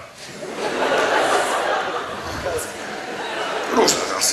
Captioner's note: audience laughs